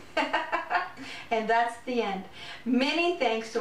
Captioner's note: laughter